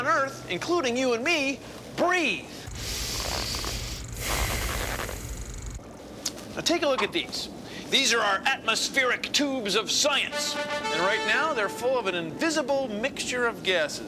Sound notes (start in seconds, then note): 2.5 inhales and exhales